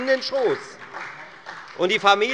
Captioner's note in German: Beifall bei der FDP und der SPD